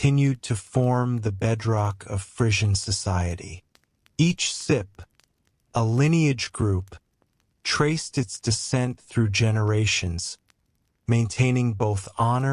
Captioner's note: sip